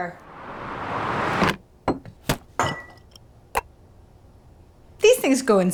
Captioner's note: swooshing; banging on countertop